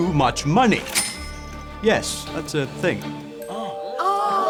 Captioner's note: cash register chimes